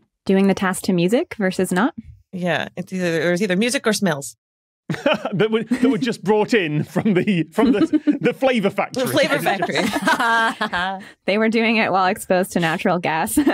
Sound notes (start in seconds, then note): 4.9 laughs; 9.9 group laughing; 13.4 laughter intensifies